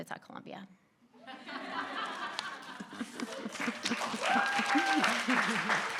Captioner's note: audience laughing and clapping